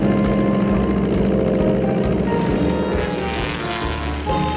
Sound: engine whines

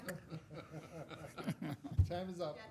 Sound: members laughing

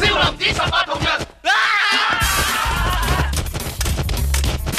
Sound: screams

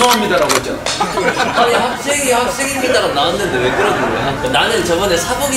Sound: laughter

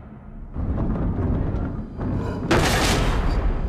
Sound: mechanism moving

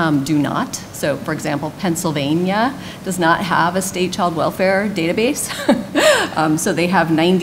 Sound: laughs

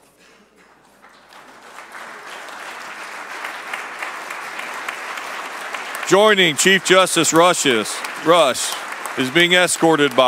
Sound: applause

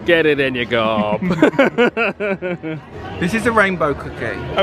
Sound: laugh

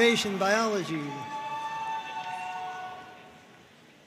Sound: audience cheering

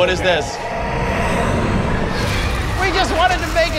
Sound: evil spirit growls

